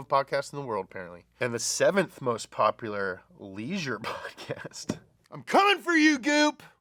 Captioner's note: chuckles